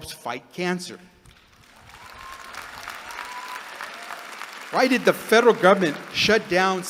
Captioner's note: applause